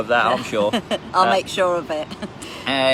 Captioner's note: laughs